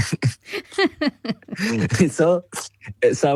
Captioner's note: laughs